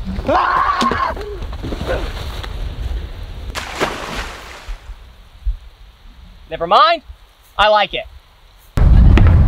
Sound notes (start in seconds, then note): 0.2 screaming; 3.5 water splashes